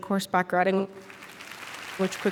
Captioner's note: audience applauding